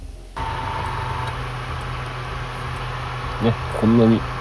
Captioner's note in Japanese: ノイズ